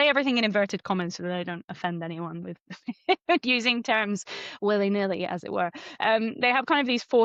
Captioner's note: laughs